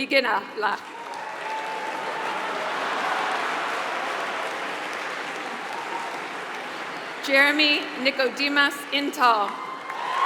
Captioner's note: applause